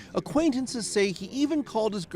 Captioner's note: speaking foreign language